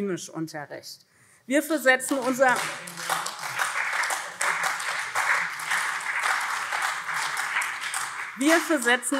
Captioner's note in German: Beifall SPD